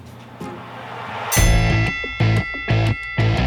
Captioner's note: WWE bell